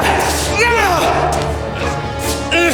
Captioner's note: Siegmund yelling; suspenseful music